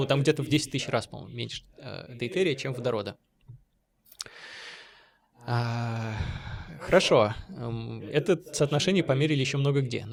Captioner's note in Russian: тяжело вздыхает